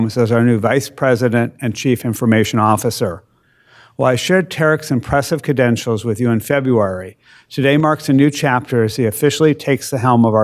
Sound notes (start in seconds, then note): none